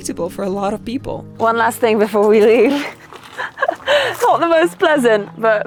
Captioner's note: laughing